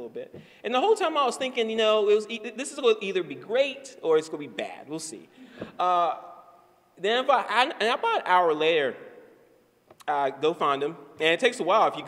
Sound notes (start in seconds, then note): none